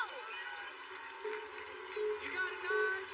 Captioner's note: countdown clock beeping